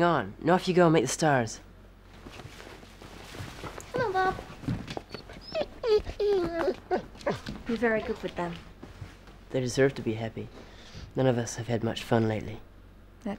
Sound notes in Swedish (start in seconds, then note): 6.2 gnäller